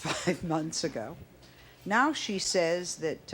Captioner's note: laughs